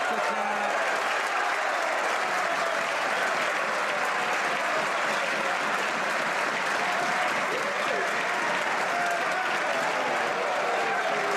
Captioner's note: some Applause